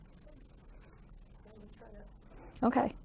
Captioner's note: student speaking faintly